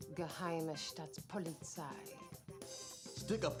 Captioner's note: speaking in foreign language